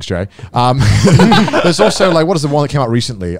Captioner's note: laughs